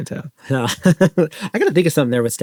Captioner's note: laughs